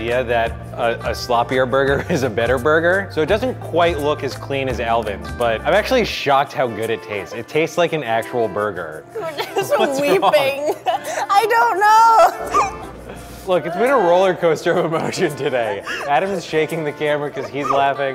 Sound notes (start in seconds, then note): 12.6 laughing